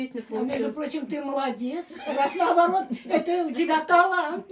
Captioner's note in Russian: смех